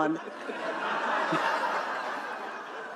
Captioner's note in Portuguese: risos da plateia